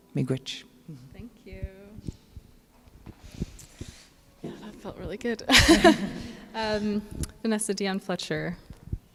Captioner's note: laughs